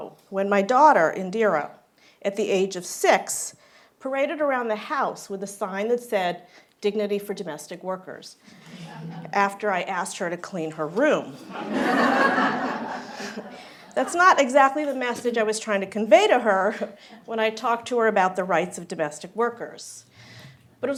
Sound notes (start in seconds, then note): 11.4 laughter